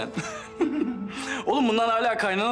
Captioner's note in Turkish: Gülüyorlar